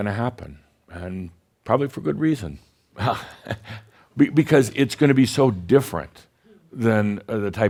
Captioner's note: chuckles